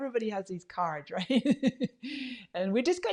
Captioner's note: laughs